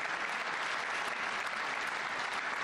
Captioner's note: applause